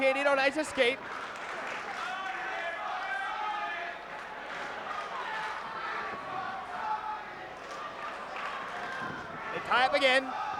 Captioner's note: applause